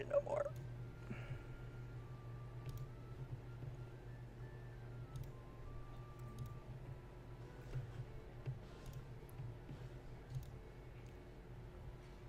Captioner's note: clicky, typey, clicky